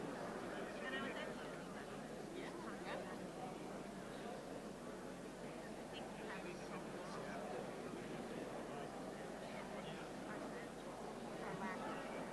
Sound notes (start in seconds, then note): 2.0 people talking; 9.2 crowd murmuring